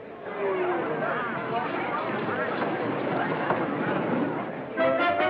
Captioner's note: chatter